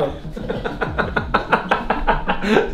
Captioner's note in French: rires